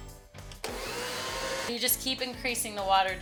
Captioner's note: mixer revs